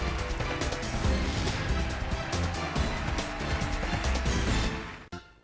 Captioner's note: cheers and applause